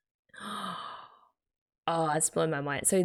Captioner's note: gasps